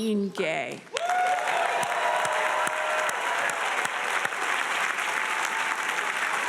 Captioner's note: audience cheering and applauding